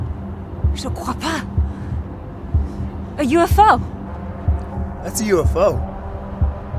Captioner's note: person speaking foreign language